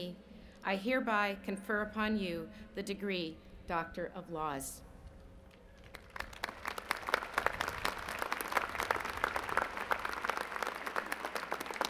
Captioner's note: applause